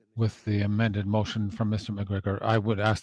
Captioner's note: speaking French